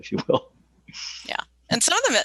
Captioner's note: chuckles